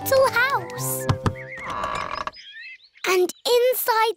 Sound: door creaks

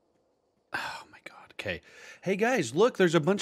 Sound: sigh

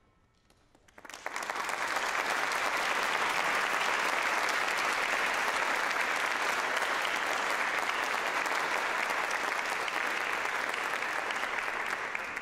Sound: applause

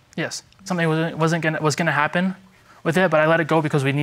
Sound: stammering

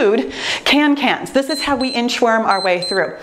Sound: timer beeps

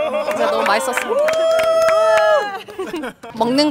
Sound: A round of cheers

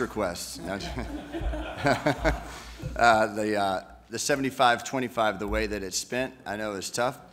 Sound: laughter

